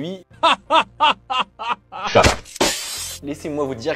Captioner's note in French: rire